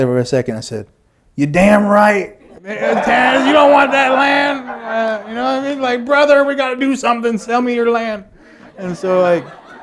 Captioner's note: laughter